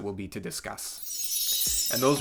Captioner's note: chime sound